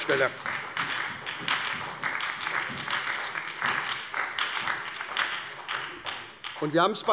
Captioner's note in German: Beifall bei der SPD